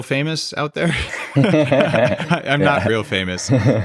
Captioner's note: both laughing